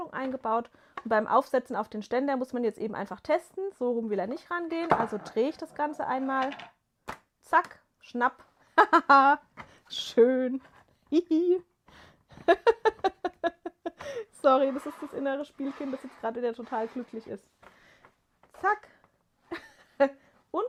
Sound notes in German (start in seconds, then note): 12.3 gelächter